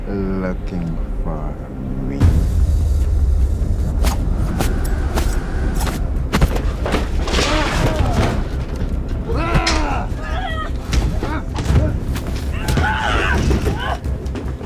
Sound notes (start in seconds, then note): 2.2 dramatic music; 3.9 air whizzing; 5.6 thudding; 9.1 both groaning